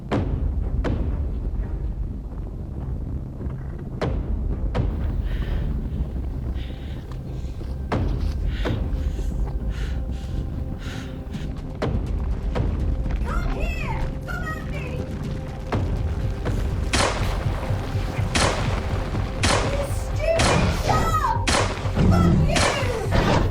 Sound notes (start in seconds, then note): 0.1 ground rumbling; 0.1 suspenseful music; 5.0 Gina panting; 16.8 gun banging